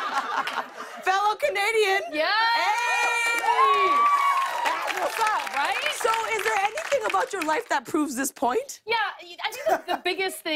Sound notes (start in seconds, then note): 0.0 laughter; 2.4 cheers and applause